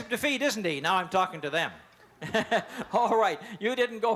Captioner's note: laughs